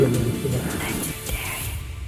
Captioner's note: gasps